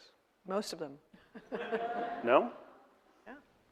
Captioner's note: audience laughing